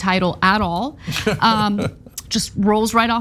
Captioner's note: laugh